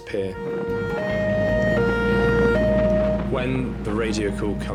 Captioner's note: alarm blaring